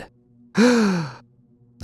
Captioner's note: gasp